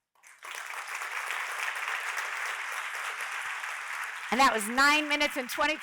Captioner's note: audience applauding